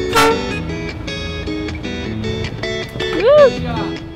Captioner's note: ship's horn blaring